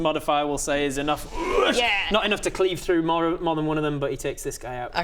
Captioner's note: woosh